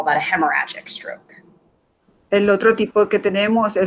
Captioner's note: speaking in Foreign Language